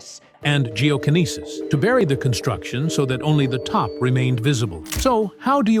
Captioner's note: TikTok AI narrator